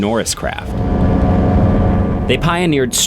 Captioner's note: wind blowing; engine whirring